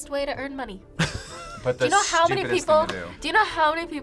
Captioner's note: React laughs